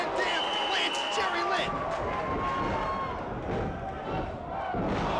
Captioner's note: applause